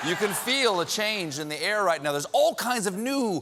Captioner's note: laughter